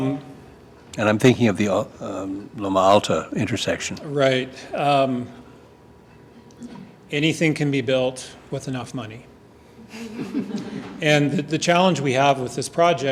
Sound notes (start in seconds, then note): 7.8 laughter